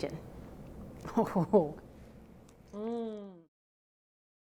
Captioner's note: moans